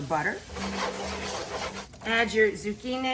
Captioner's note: butter sizzling